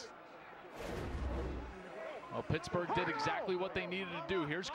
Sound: speaking on the field

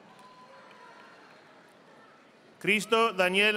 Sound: audience applauding

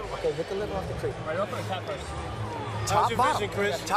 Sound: chatter

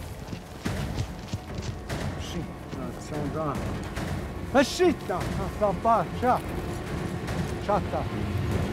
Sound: speaking crow

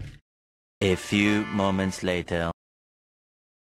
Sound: in French accent

